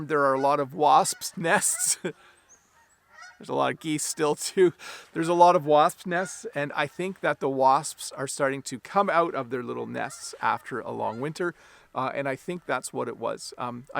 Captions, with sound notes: there are a lot of wasps nests. (geese honking) There's a lot of geese still, too. There's a lot of wasp nest. And I think that the wasps are starting to come out of their little nests after a long winter, and I think that's what it was.